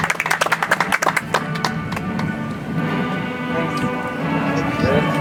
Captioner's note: audience applauds